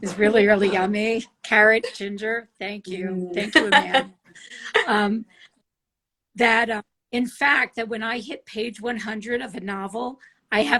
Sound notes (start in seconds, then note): 3.5 laughs